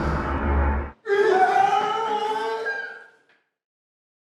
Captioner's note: screams